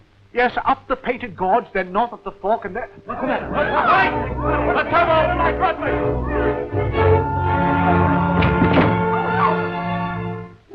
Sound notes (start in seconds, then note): 3.1 everyone shouting